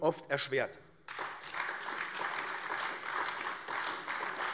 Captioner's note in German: Beifall AfD